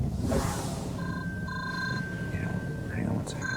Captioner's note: phone ringing